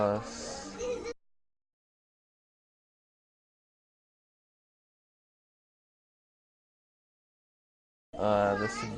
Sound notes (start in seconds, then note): 1.3 silence